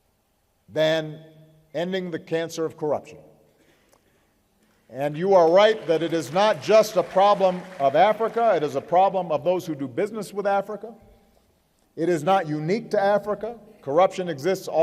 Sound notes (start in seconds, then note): 5.3 applause